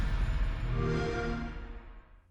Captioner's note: xbox sound